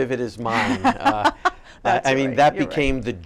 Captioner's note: laughing